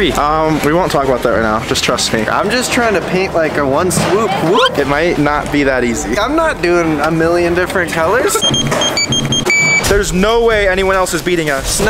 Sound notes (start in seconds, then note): 8.3 scanner beeps